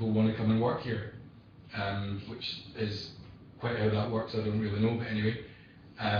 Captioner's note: audio distorts